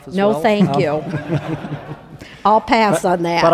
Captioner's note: crowd laughing